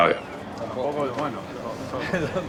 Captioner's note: speaking Spanish